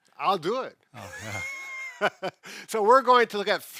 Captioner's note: laughing